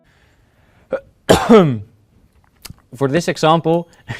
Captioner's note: cough